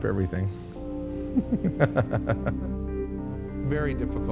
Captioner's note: laughs